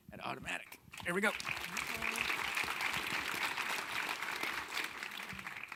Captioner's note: audience clapping